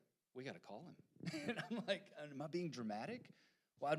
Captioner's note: laughing